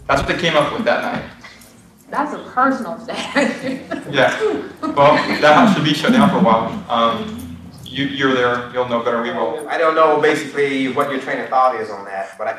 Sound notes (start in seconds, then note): 3.0 laughs